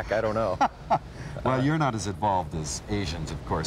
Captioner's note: laughs